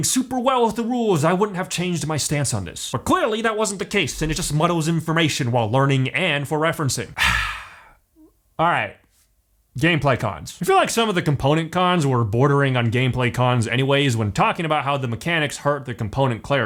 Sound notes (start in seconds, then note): 7.1 sigh